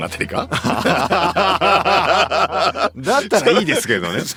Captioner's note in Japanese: 笑い